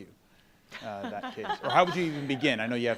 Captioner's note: panelists laughing